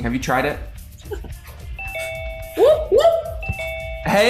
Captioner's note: bell dings